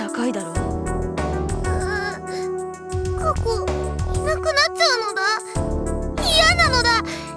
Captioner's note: whimper